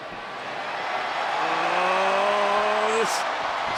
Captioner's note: crowd cheers